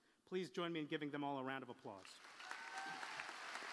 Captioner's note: applause